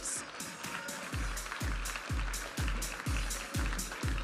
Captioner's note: audience applauding and cheering; upbeat music